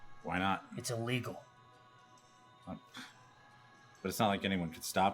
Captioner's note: none